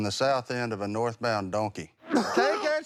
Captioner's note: retches